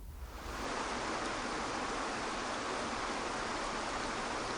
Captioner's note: water falling